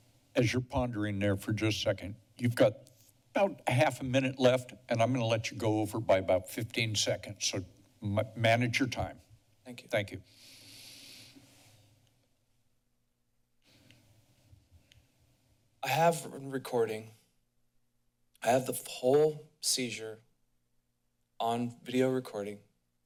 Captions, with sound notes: - As you're pondering there for just a second, you've got about a half a minute left and I'm gonna let you go over by about 15 seconds. So manage your time. - Thank you. - Thank you. [inhales] [silence] - I have a recording. I have the whole seizure on video recording,